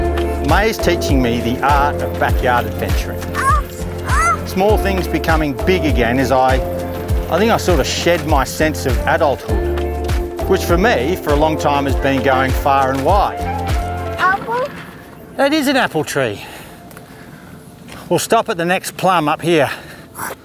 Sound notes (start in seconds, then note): 4.0 squeals